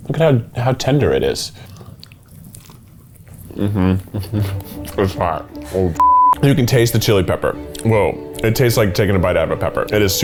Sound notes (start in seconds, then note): 6.0 beep